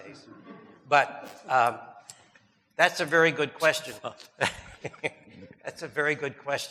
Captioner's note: audience laughing; chuckles; chuckles